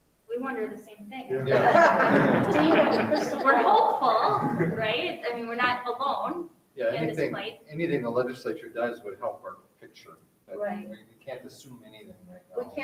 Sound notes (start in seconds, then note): 1.4 everyone laughs